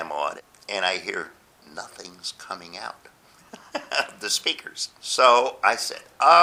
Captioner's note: laughs